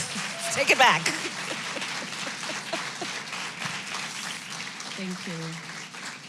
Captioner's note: applause; laughs